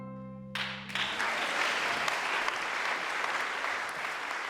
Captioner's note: applause